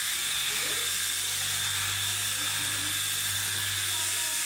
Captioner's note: clippers continue buzzing